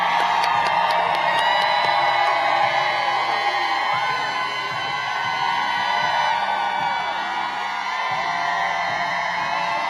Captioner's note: applause